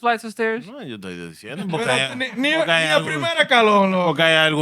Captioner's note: speaking Spanish